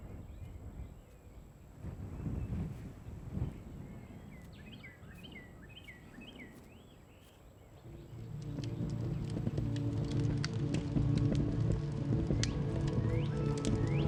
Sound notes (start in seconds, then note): 3.3 bird chirping; 7.8 light music